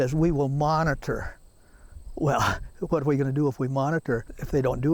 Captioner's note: laughs